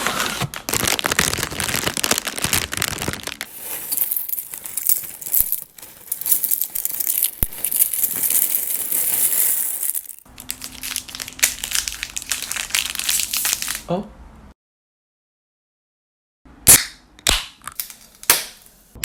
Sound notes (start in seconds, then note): 0.8 crinkle crinkle; 10.1 crinkle; 16.6 soda can opening pop; 17.2 La Croix opening pop; 18.8 pop